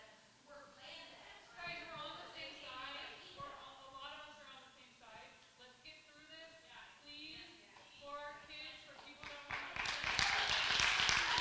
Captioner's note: crowd shouting